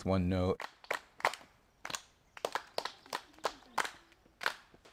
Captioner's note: students clapping